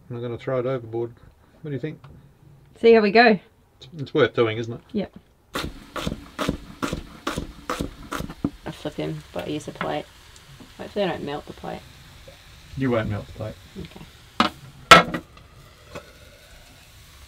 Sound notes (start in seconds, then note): 5.6 knife chopping; 14.8 clanging